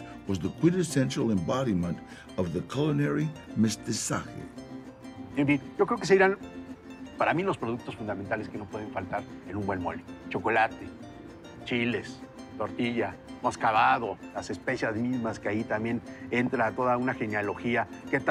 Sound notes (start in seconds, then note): 5.5 in Spanish